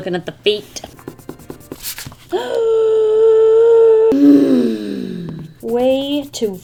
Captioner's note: deep inhale of frustration